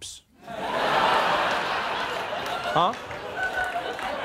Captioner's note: audience laughing